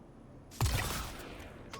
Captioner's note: gun firing